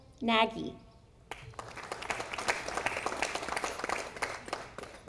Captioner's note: audience applauding